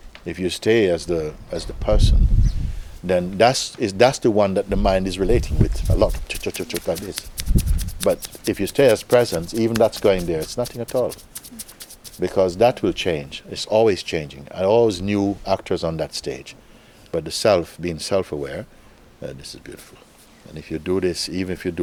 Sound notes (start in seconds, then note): 5.8 chattering sounds